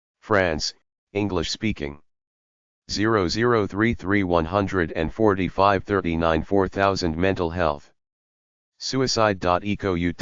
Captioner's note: english Speaking